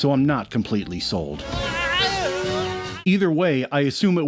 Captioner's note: inarticulate yowls of abject terror